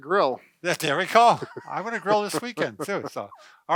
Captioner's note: laughing